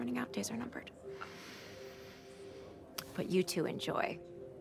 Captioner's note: inhales heavily